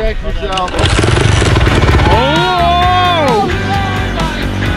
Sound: engine revving

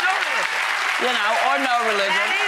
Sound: audience applauds

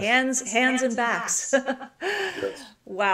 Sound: chuckles

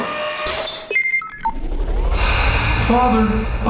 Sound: exhale

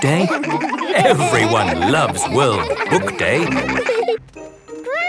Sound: laughter

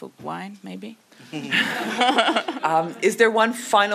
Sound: audience laughs

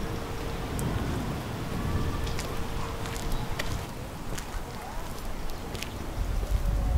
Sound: steps; thunder

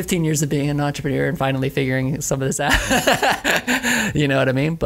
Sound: laughs

